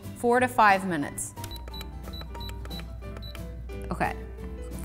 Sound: beeping

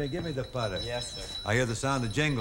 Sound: jingle bell ringing

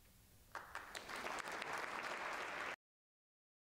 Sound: crowd clapping

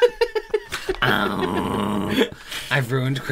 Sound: guilt Ridden Crying

